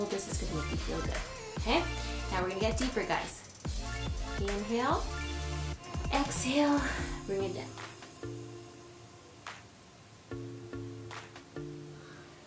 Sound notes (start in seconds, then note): 6.8 inhales slowly; 6.8 exhales slowly